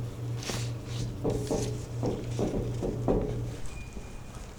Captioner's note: knocking on the glass